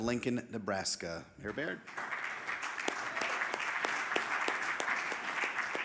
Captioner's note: audience applauding